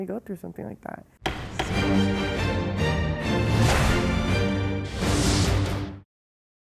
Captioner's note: gavel banging; suspenseful music